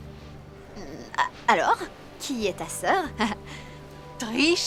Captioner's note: chuckling